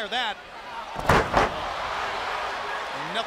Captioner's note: crowd cheering